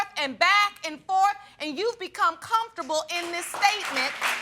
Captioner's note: audience applauds